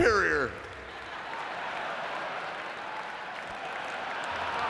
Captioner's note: audience laughing